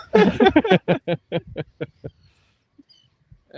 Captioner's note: laughter